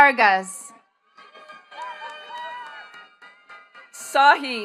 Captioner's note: attendees cheering and clapping